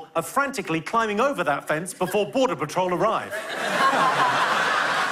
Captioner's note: laughter